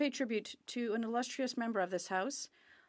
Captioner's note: speaking French